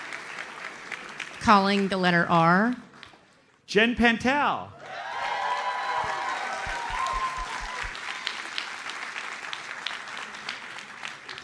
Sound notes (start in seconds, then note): 4.8 audience cheers and applauds